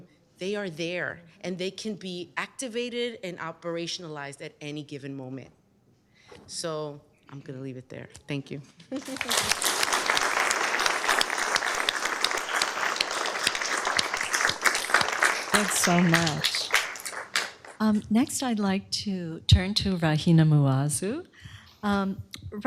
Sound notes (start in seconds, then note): 8.9 laughter; 8.9 applause